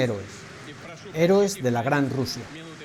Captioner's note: applause